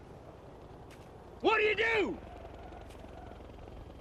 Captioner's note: shouts